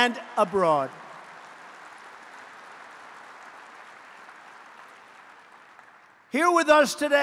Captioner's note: applause